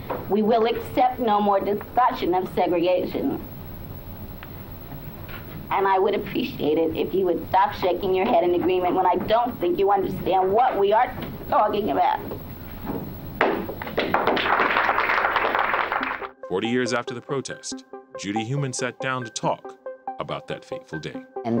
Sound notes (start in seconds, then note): 13.4 crowd clapping